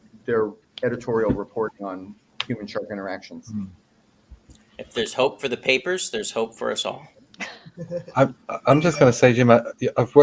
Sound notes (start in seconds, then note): 7.5 laughing